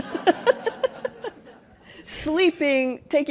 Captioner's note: laughter